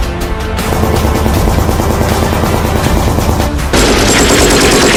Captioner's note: gunshots banging